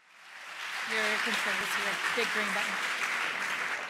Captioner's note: crowd applauds